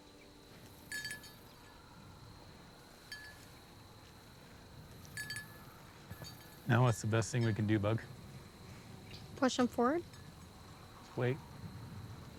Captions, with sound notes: (bell jingling) - Now what's the best thing we can do, Bug? - Push them forward? - Wait.